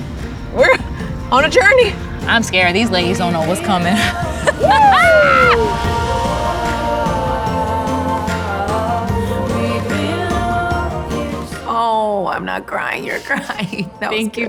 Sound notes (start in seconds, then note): 3.8 both laughing; 6.4 upbeat music